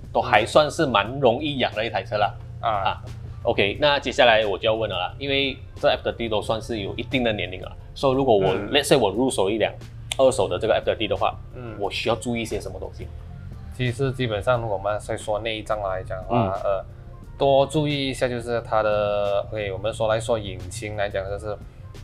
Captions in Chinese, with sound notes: 都还算是蛮容易养的一台车啦 那接下啦我就要问了啊 因为这个 F30 多数都是算有一定的年龄了啊 所以如果我入手一辆 二手的 F30 的话 我需要注意些什么东西吗？ 其实基本上我们先说内脏（引擎）来讲啦 多注意一下就是它的 我们说引擎来讲就是